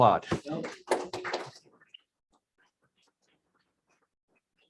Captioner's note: audience clapping